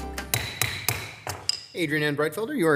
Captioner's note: gavel pounding